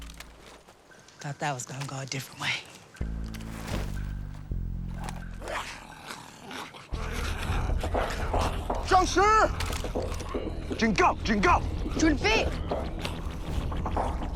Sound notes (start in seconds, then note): 5.3 snarling; 7.9 shouting in mandarin; 11.4 speaking mandarin